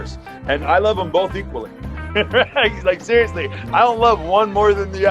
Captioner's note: laughs